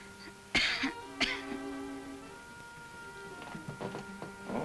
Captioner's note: Ellen coughs